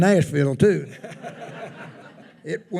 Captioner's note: attendees laughing